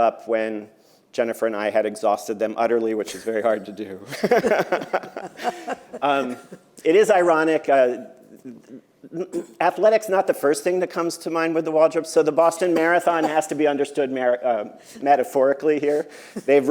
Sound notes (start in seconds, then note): 4.0 laughs